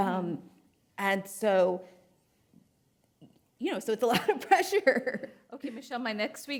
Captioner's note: laughs